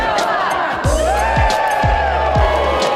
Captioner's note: cheers